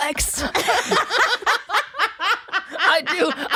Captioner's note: all laughing